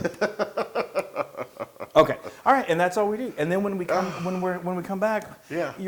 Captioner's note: laugh